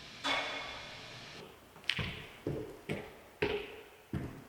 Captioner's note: metal thudding; metal clangs